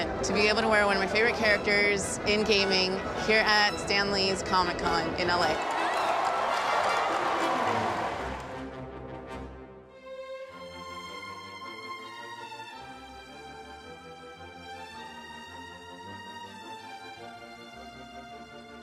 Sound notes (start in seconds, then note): 5.5 applause and cheering; 10.3 whimsical music